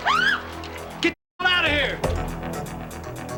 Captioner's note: none